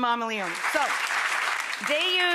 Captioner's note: audience clapping